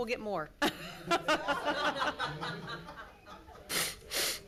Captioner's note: laughter